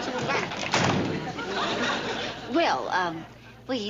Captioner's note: lid slamming shut